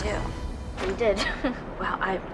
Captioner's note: anxious chuckle